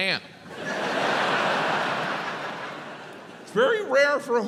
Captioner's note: crowd laughs